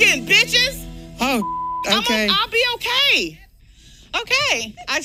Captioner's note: beep